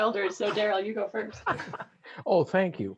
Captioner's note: laughs